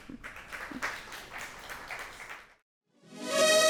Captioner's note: crowd applauding; bright music